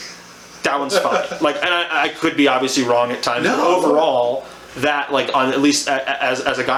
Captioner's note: laughs